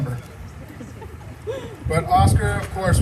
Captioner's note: laughter